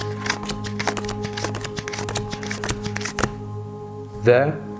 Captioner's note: cards shuffling